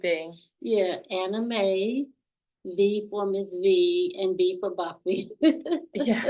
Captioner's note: laughs